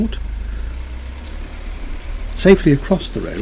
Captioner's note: van engine rumbles